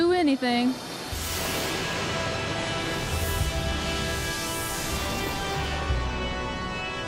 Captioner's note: suspenseful music; thunder rumbling